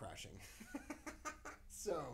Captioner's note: laughing